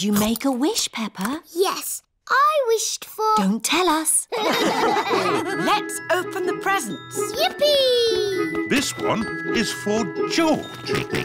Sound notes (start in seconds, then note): 4.3 all laugh